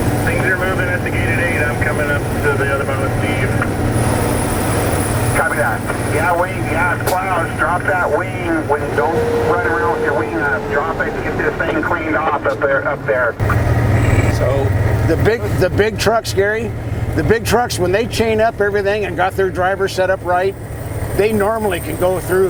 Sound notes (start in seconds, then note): 0.2 CB radio respondent; 5.1 CB radio